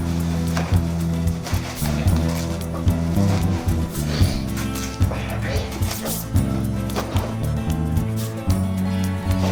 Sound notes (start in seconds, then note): 2.3 flag tearing